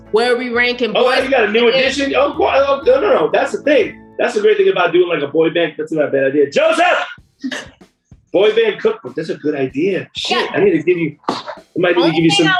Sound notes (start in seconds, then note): 7.4 laughs